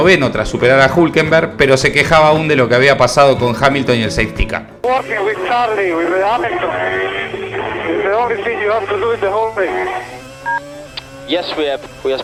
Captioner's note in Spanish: radio